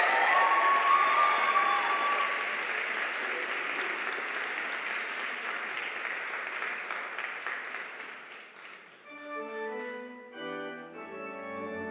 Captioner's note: cheers and applause